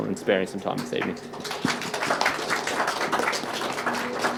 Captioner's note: applause